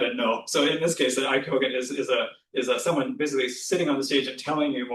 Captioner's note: japanese